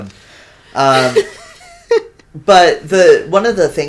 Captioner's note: cracks up